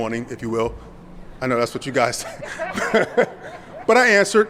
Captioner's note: laughs